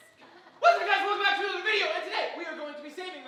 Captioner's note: shouts